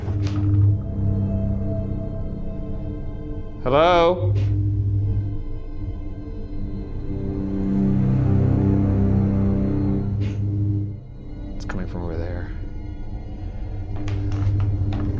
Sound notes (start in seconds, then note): 0.2 object thumps; 4.7 object thumps; 6.6 suspenseful music